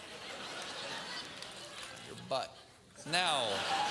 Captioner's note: laugh